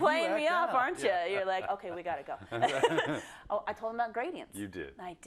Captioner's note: laugh